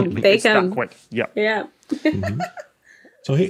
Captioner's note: giggles